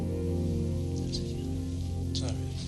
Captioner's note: whispering